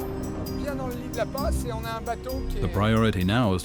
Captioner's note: speaking French